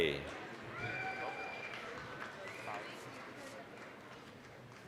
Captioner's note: applause, cheering